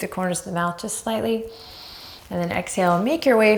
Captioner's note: deep breaths